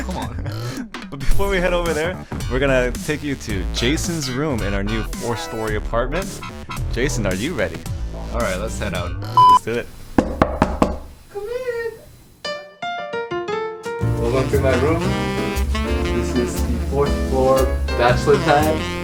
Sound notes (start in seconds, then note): 9.3 beep; 10.2 door knocks